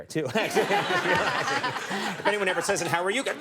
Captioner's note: audience laughing